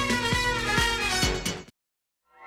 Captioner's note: crowd cheering